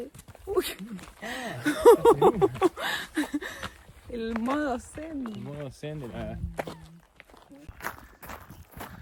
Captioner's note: laughs